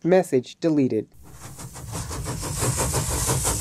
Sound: train noise

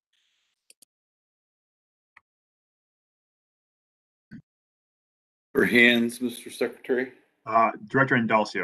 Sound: A pause

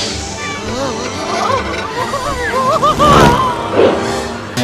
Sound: nervous Screaming; spring sounds

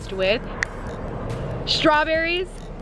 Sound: snaps fingers

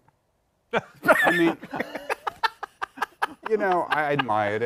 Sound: laughter

